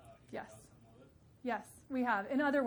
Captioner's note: faintly speaking